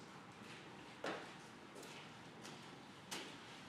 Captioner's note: none